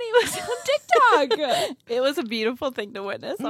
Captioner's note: laughs